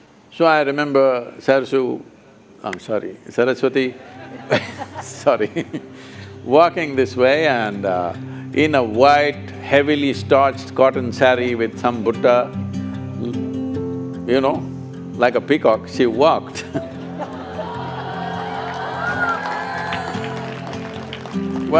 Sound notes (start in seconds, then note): 4.0 laughs; 17.2 cheers & Applause